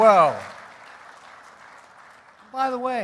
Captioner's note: applause